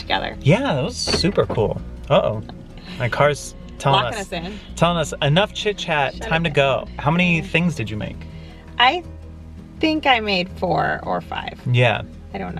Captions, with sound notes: 'cause we got to do it together. - Yeah, that was super cool. (car beeps) Uh-oh. My car's tellin' us-- - Lockin' us in. - Tellin' us enough chit-chat, time to go. How many things did you make? - I think I made four or five.